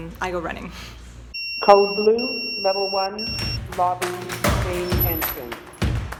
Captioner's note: beeps